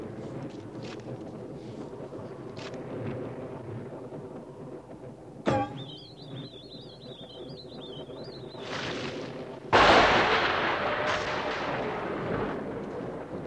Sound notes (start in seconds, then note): 0.9 digging noises; 5.5 shovel thuds; 5.5 whistling; 8.6 dirt drops; 9.8 lightning strikes; 11.0 howling